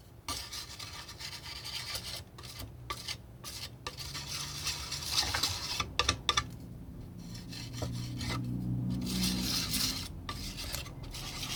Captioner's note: scratching